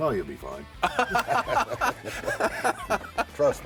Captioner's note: laughing